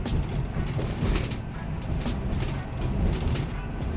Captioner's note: RV jostling